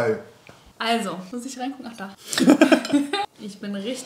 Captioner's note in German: beide lachen